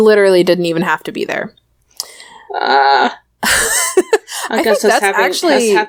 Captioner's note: laughs